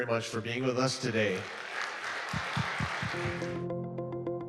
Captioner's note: audience applauding; bright curious music